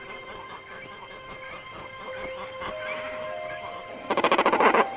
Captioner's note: gentle music; birds calling